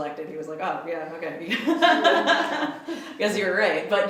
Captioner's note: laughs